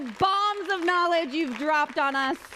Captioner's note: applause